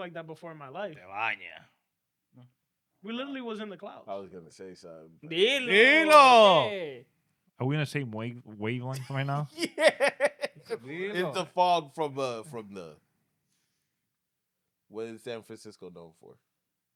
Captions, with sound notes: that before in my life. (Speaking In Foreign Language) We literally was in the clouds. (Speaking In Foreign Language) Are we gonna say where you going right now? Yeah. (Laughing) It's the fog from the, what is San Francisco going for?